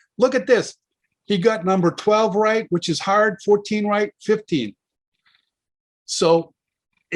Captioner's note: none